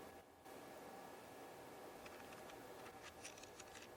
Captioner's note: white noise